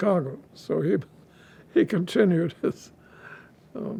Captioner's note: laughing